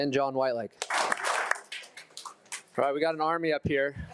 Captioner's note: attendees applauding